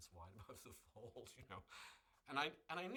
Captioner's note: laughs